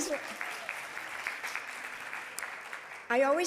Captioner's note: audience applauding